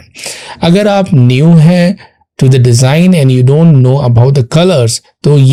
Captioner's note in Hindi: नाक से की जाने वाली आवाज़